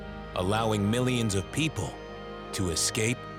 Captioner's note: none